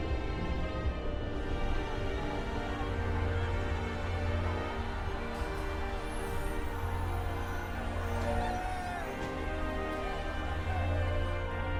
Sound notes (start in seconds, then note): 8.4 crowd cheering